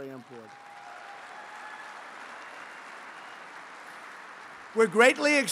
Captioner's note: applause